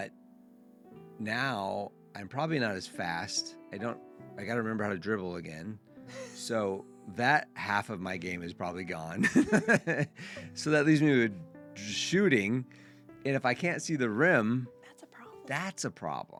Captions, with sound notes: But now I'm probably not as fast. I don't, I got to remember how to dribble again. So that half of my game is probably gone. (laughs) So that leaves me with shooting. And if I can't see the rim, that's a problem.